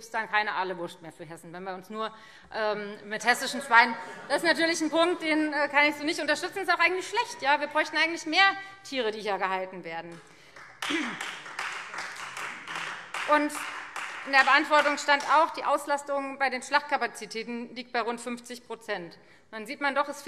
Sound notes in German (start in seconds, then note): 3.9 Heiterkeit; 10.1 Beifall Freie Demokraten